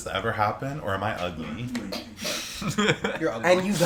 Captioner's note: laughter